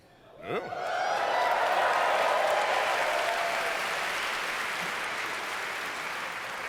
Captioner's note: audience cheers